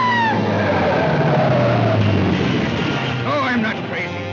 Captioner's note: bystander screaming; brakes squealing